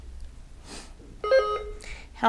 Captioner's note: button buzzing